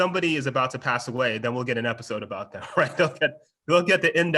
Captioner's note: laughs